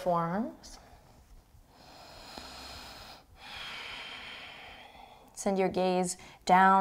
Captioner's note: deep breathing